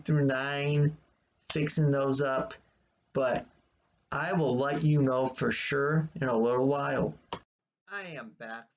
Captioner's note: click of trackpad